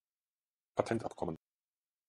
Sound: fast Pronunciation

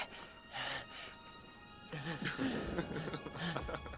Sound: laughing

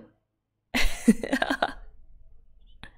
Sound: laughs

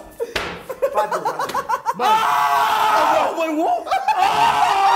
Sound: cheering

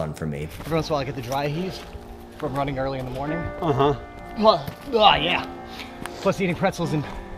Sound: gags

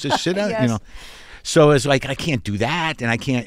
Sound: laughter

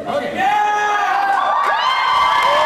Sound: cheers

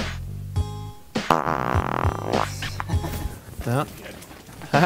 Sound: fart noise

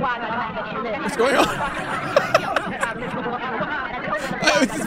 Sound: laughs

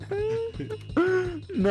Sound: laughing

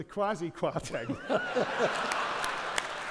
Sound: audience laughing; audience clapping

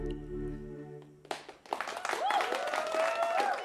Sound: cheers and applause

